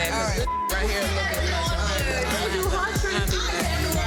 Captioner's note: beep